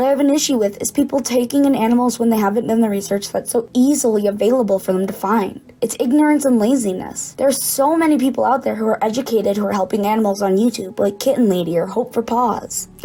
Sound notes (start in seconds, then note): none